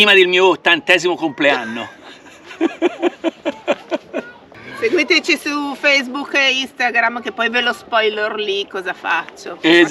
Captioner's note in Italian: Risate